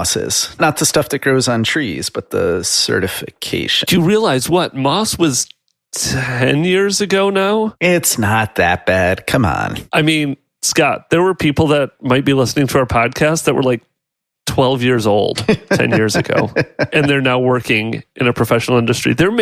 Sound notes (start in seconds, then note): 15.3 laughs